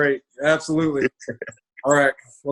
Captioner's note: laughs